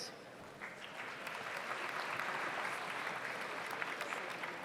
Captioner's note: audience applauds